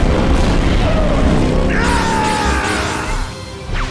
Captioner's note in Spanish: Grita enfadado